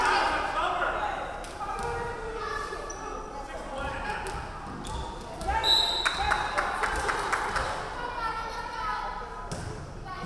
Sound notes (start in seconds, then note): 5.6 referee whistling